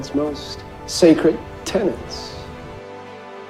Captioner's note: voiceover